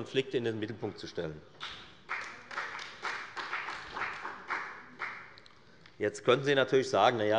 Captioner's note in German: Beifall bei der FDP und bei Abgeordneten der CDU